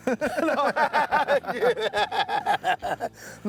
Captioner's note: both laughing